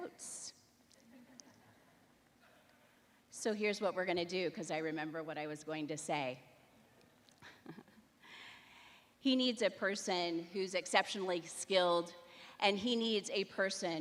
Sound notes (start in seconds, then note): 3.6 chuckling